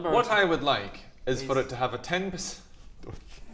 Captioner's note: laughs